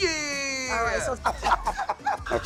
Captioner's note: laughing